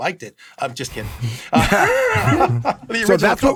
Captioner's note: laughs